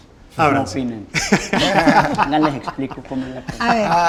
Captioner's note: laughs